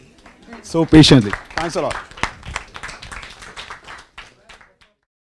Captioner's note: audience applause